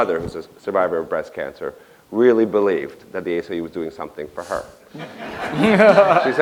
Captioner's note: laughter